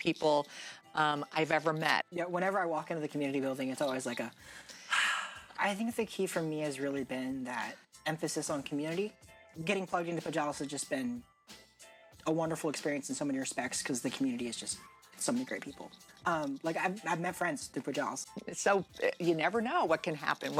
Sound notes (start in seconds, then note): 4.4 sighs